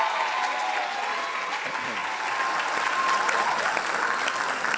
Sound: loud applause and cheers

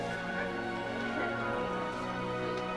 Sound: none

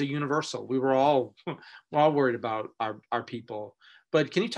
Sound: chuckling

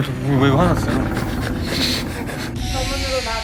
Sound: creaking

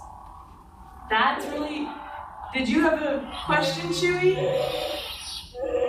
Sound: Chewbacca Roars

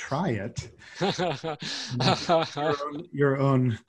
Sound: laughs

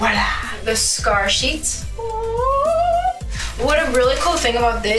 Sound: howling

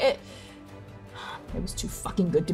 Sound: sighing

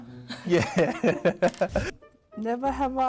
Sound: both laughs

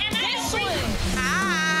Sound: beep; logo whooshing

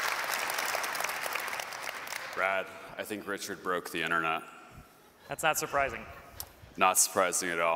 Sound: cheers and applause

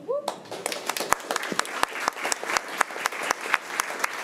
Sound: crowd clapping

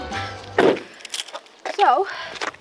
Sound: car door slams

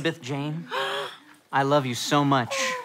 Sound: gasps

